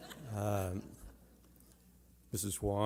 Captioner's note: laughter